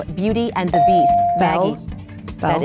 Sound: ding

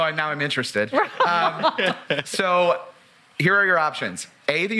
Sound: laugh

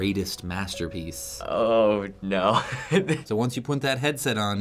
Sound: chuckling

